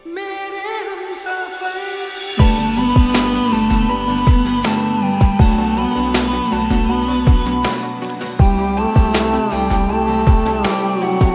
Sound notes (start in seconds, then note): 4.2 Humming